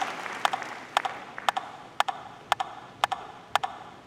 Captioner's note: audience applauding; rhythmic tapping